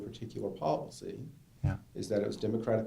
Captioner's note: voiceover